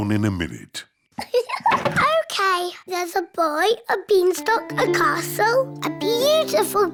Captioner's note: laughs